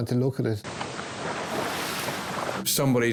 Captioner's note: waves roaring